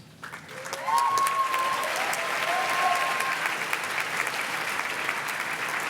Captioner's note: audience cheers and claps